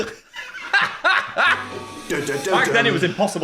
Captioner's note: laughs